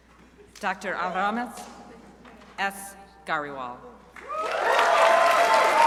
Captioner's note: crowd applauding